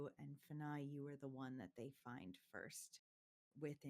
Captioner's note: none